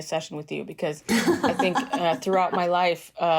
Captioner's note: laughter